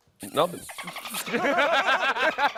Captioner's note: dolphin screeching; laughter